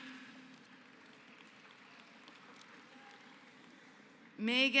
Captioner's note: applause